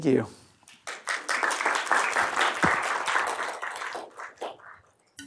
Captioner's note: applause